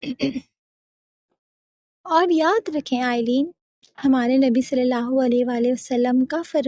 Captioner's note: clears his throat